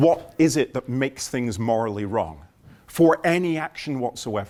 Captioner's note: none